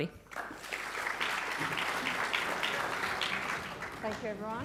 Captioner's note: audience clapping